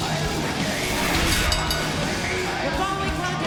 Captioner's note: bell rings